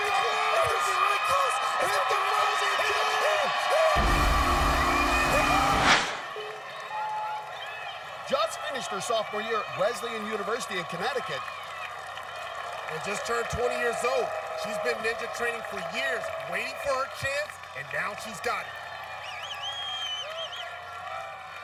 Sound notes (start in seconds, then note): 4.0 buzzer blares; 6.7 countdown clock beeping